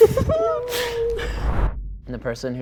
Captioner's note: laughter; woosh